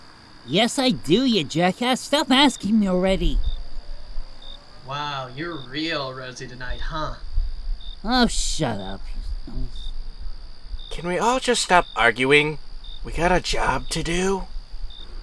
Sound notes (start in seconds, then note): 9.0 grumbles